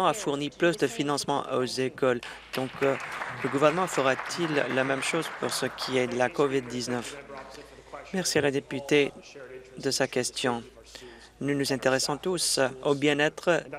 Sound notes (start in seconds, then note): 5.2 applause